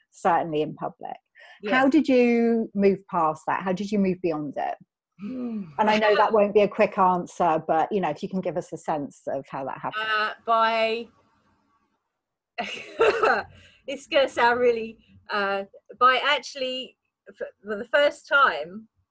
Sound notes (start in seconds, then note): 5.2 groaning; 12.9 laughs